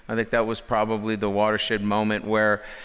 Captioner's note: none